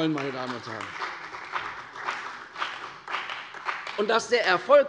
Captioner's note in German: Beifall bei der CDU und dem BÜNDNIS 90/DIE GRÜNEN